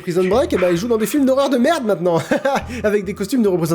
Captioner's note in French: rire